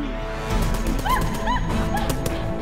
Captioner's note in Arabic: إطلاق نار; صراخ